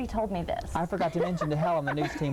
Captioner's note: laughing